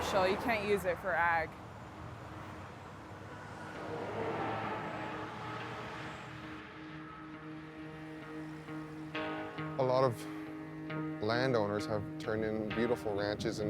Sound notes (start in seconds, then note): 2.8 gentle music; 2.8 traffic whooshing